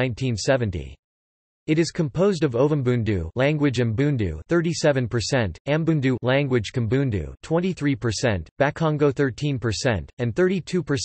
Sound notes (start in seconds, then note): 4.0 language Umbundu